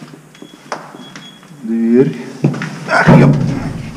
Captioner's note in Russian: ругань